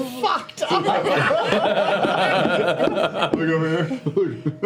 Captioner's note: laughter